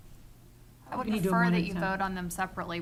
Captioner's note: speaking quietly